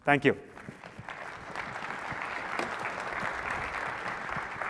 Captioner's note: applause